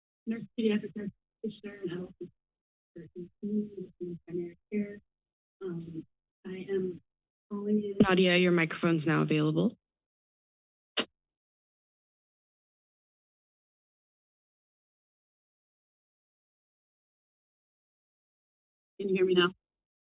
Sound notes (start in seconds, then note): 9.9 silence